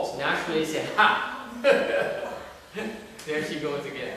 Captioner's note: laughter